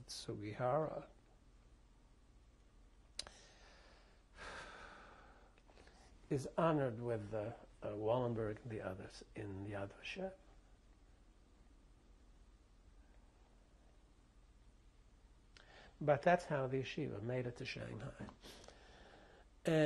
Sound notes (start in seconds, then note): 4.4 sighs; 10.2 pauses for 6 seconds